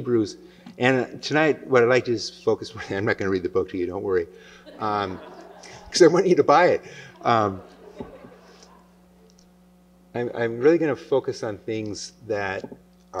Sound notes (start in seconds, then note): 4.6 laughter